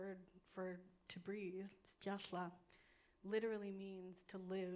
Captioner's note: speaking in foreign language